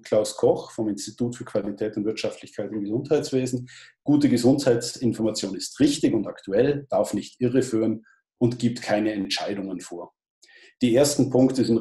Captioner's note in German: liest Zitat vor